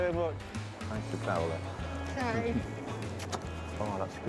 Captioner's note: kisses